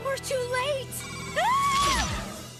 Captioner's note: screams